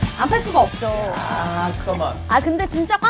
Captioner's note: scratching